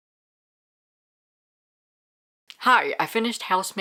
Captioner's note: no audio